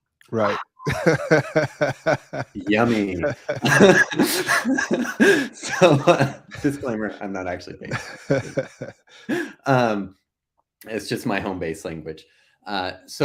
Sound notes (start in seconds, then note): 0.4 laughing; 4.1 both laughing